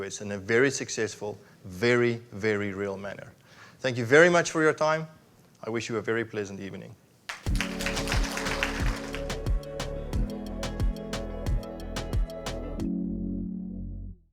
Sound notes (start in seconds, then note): 7.2 audience clapping; 7.4 gentle music